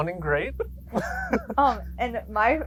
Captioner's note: both laughing